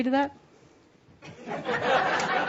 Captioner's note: laughter as shrugs